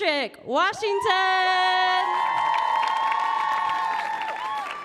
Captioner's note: audience cheering